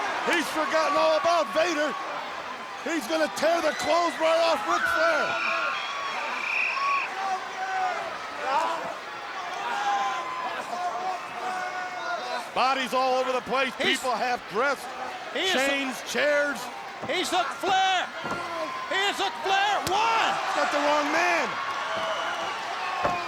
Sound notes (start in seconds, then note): 5.7 crowd cheering; 6.4 whistle tweeting; 8.5 crowd cheering; 8.5 wrestlers grunting; 23.0 crowd cheering; 23.0 wrestlers grunting